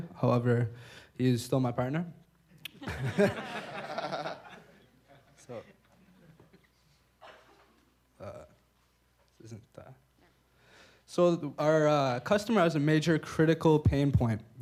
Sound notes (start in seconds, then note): 2.7 laughter